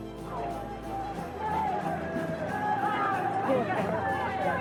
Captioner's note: reporters shouting